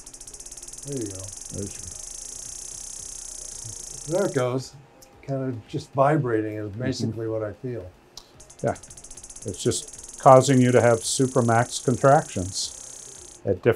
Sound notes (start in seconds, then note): 0.0 machine buzzing; 8.2 machine vibrating